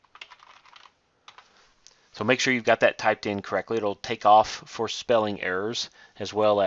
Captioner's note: typing